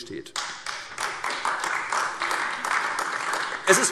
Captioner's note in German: Beifall AfD